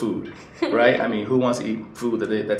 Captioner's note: laughs